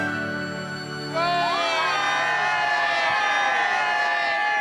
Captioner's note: cheering